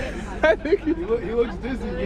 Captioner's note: laughing